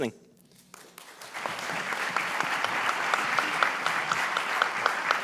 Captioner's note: audience applauding